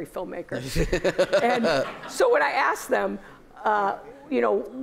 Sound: laughter

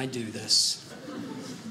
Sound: audience laughing

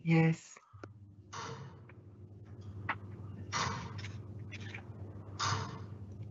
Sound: clock ticking

